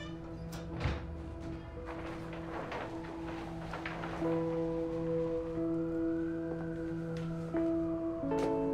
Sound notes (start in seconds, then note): 0.0 door closing; 0.0 dramatic orchestral music; 4.3 distant sirens wailing